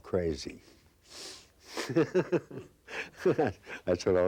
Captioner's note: laughing